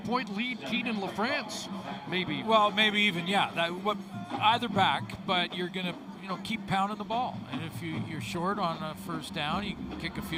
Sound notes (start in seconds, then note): 3.0 whistle